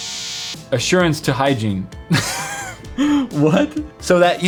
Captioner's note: laugh